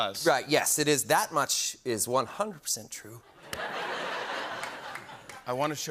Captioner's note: laughter